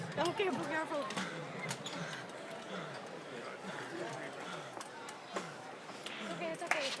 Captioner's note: crowd chatter